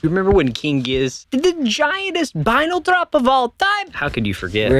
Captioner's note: Nacho Libre accent